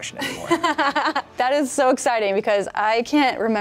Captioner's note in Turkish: güler